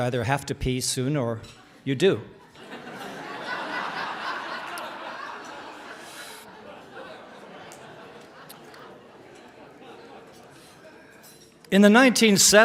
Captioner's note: laughter